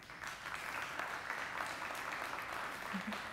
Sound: applause

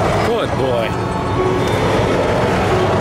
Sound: none

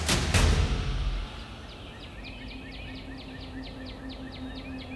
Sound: birds chirping

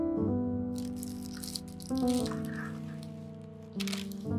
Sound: pan clanks and slides; paper rustling

